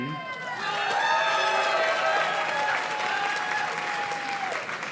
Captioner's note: audience cheers and claps